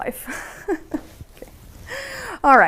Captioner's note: laughter